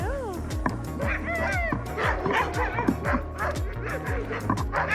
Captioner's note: barking